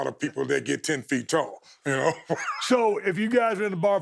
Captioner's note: chuckles